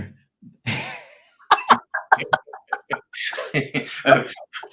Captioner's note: group laughs